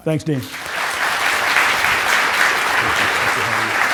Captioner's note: applause